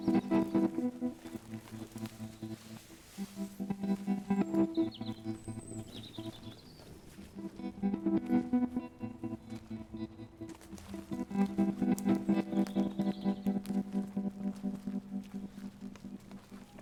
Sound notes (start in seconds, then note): 5.1 birds chirping; 7.8 soft suspenseful music